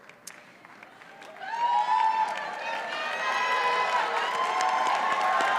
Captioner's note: audience cheers and applauds